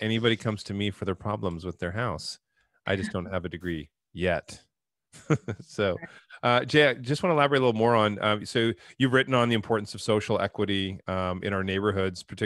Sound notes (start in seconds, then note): 2.9 laughs